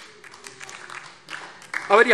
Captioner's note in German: Vereinzelte Heiterkeit - Beifall DIE LINKE